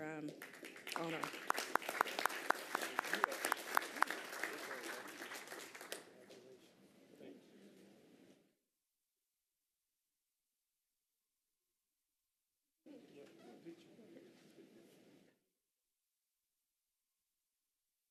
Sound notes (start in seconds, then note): 5.8 applause